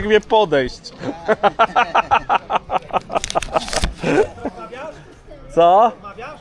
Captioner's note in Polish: śmiech